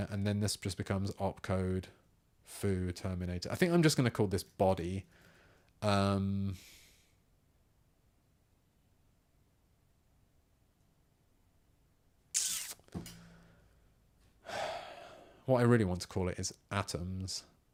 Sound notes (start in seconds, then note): 5.4 silence